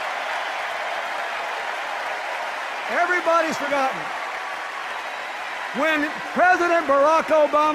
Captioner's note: sustained cheers and applause